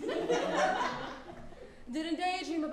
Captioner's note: audience laughs